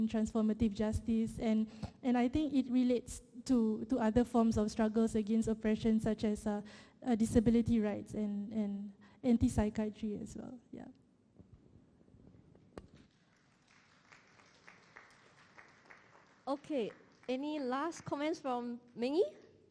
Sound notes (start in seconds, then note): 12.9 applause